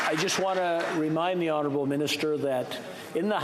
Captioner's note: applause